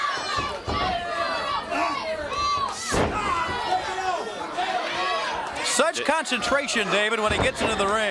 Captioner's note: crowd chatter